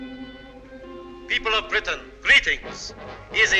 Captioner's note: radio broadcast